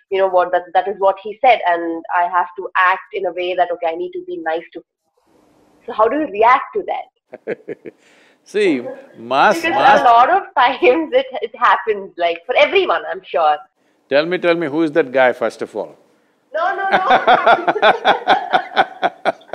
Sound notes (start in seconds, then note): 7.3 laughs; 16.8 both laugh